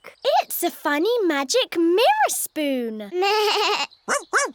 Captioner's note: bleats